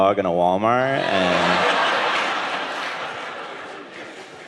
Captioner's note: audience laughing